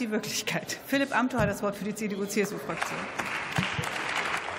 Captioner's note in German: Beifall